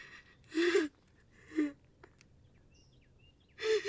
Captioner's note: crying